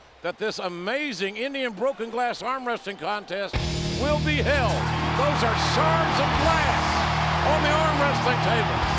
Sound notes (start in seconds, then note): 4.9 audience cheers